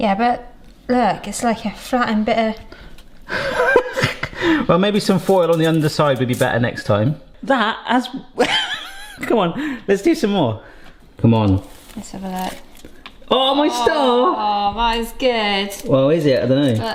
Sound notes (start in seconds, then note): 3.3 laughs; 8.4 laughs; 11.5 foil crinkles